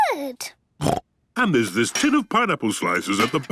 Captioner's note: snorts